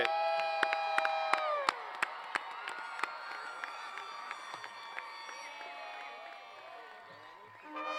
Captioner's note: cheers and Applause; band plays